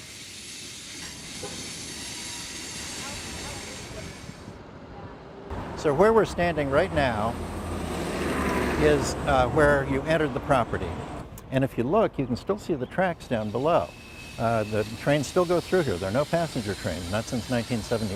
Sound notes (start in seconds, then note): 2.4 train steaming